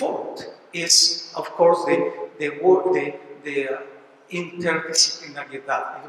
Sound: spanish

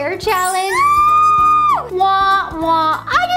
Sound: screaming

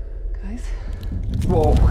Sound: ground rumbling

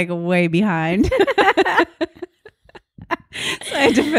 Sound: both laugh

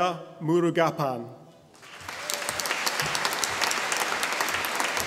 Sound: audience applauding

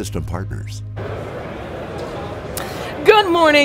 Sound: people chattering

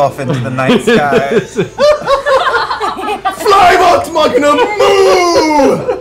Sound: shouting

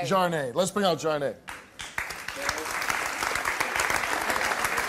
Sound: applause

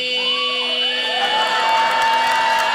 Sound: audience cheers; audience applauding

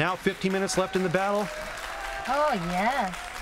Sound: cheering

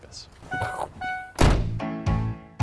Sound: car beeps; upbeat music

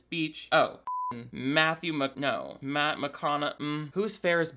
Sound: beep

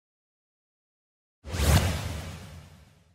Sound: cool whoosh noises

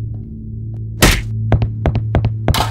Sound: smack

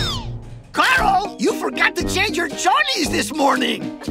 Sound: spanish

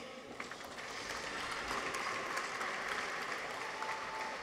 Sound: audience applauds

